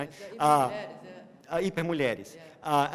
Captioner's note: non-english